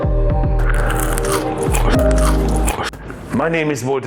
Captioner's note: potato crunching